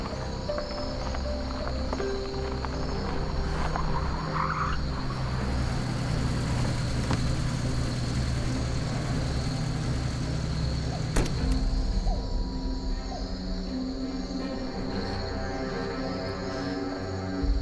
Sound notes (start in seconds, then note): 9.3 engine idling; 10.9 car door closing; 14.6 mysterious music